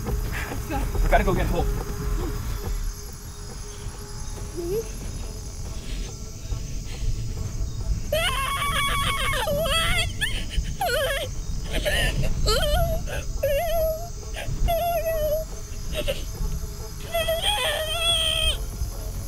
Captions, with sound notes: We gotta go get Hope. (cries) What!? (cries)